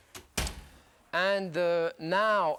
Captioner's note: oven bangs